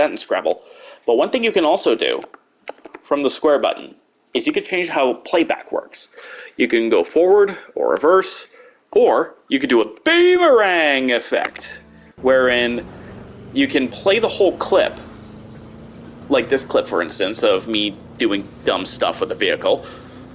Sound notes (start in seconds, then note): 9.3 dramatic voice; 12.3 normal voice